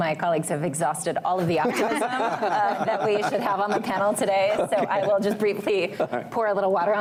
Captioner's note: laughter